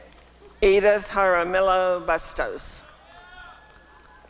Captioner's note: applause and cheering